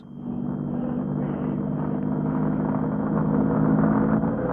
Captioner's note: engine revving